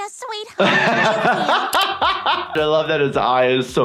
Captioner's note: laughs